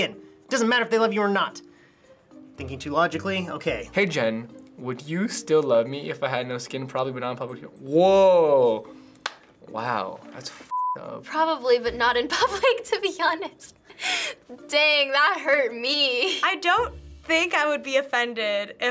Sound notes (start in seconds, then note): 9.2 claps; 13.9 laughs